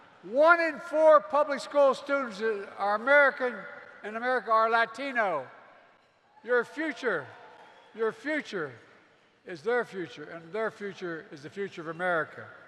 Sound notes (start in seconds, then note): 5.2 applause